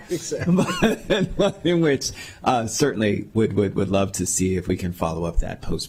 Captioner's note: laughing